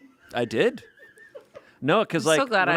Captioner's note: crew laughs